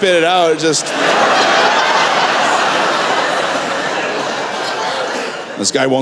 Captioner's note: laughter